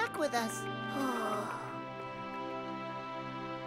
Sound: funshine sighs

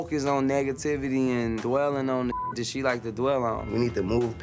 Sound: beep

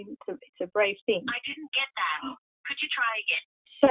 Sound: computerized Voice

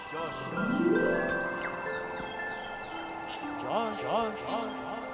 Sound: dream sequence music; echoes

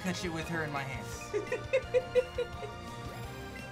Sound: laughs

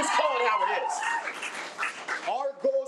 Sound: audience applause

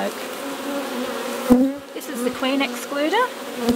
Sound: bees buzzing

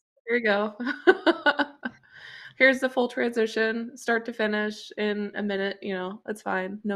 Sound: laughs

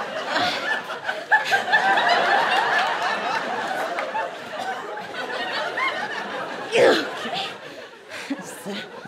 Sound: grunting

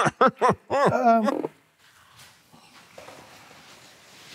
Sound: laughs

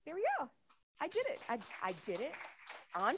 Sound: audience applauding

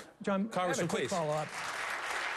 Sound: applause

